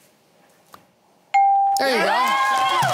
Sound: cheering

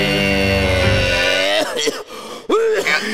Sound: coughing

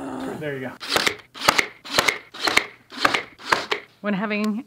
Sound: growl; nail gun

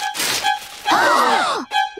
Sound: gasping

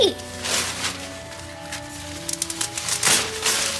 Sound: rustling sounds

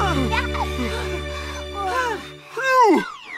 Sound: breathing heavy

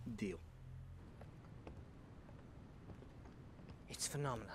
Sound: footsteps

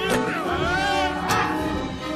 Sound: charles screams

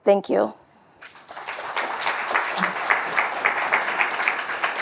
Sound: audience applauding

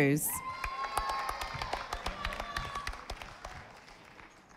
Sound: audience applauding

